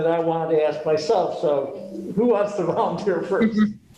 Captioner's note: chuckle